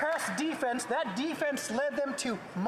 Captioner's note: applause